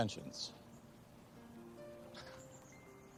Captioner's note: scoffs